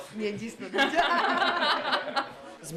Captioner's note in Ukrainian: Сміх